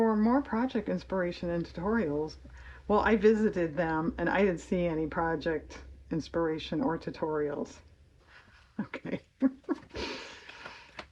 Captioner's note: laughs